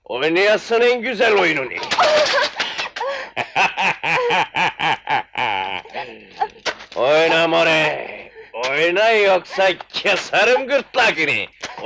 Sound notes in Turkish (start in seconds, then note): 1.8 Kahkahalar